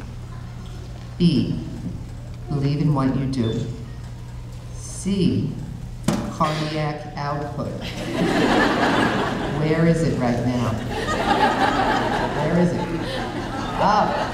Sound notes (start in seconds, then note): 7.8 audience laughing